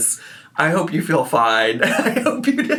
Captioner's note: laughs